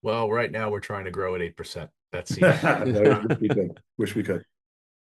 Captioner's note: laughs